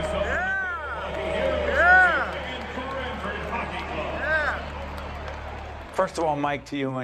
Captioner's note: cheering